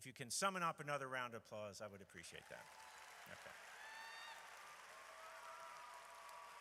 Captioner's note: audience cheers